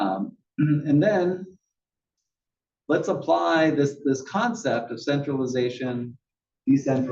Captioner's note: cough